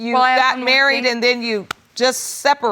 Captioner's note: claps